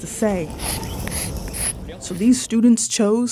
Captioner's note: chalk scraping